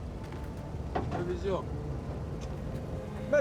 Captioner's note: speaking Slavic language